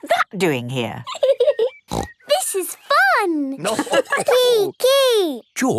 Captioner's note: giggling and snorting; laughter